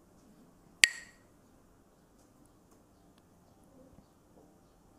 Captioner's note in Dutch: klakt met stokjes